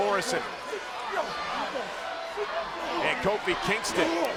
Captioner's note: crowd yelling; wrestlers chattering